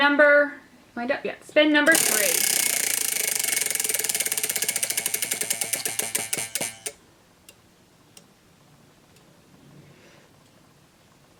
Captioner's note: wheel spinning noise